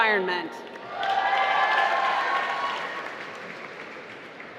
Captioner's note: applause